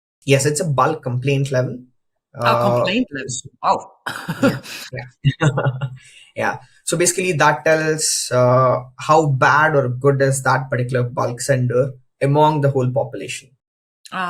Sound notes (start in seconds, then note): 4.0 laughs; 4.0 chuckles